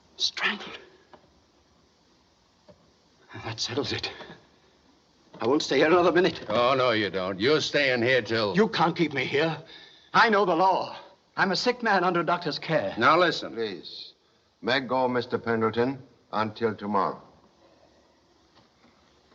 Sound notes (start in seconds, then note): none